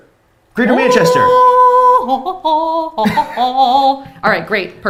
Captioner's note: hums melodiously